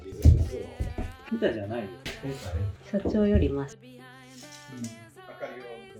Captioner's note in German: lacht